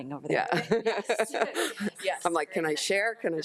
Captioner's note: laughs